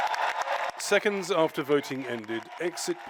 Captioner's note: cheering and applause